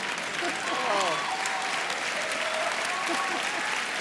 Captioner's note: laughter; applause